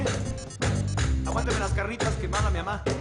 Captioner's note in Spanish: Suena el celular